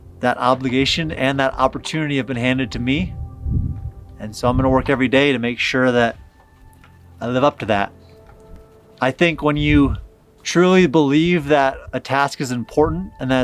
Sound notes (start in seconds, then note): none